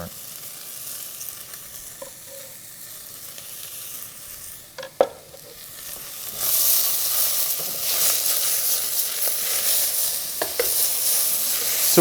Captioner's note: pan sizzling